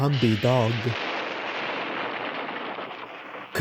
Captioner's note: explosions